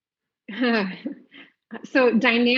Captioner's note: laughs